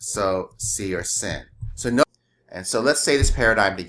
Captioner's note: speaking greek